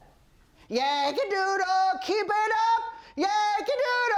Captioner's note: off-key shouting